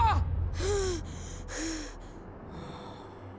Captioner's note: both screaming; Aang gasping